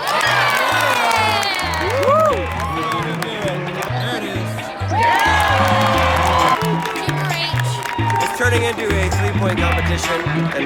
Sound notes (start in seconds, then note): 0.2 crowd cheers; 4.9 crowd cheers